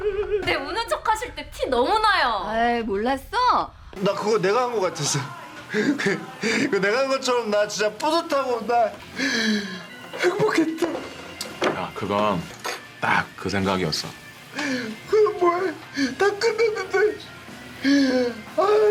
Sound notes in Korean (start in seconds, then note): 9.1 들숨